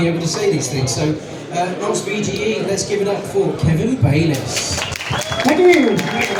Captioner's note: claps